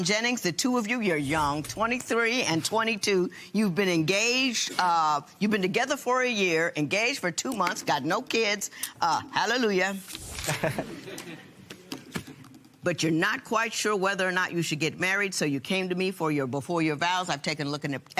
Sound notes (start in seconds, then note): 10.4 laughter